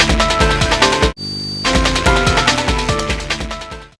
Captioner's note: static hissing